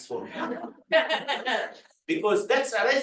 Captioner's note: group chattering